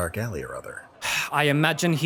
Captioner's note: sighs